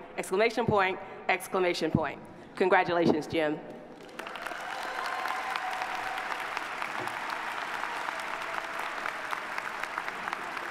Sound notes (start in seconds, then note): 4.0 audience applauding